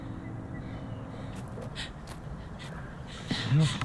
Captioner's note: rapid breathing; gravel footsteps